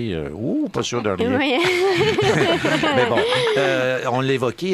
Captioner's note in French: rires